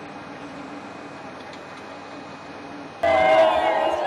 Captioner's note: quiet din